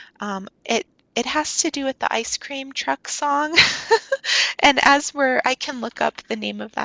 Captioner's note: chuckles